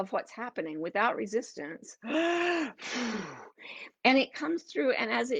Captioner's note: gasping